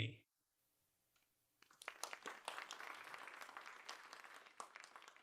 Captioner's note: applause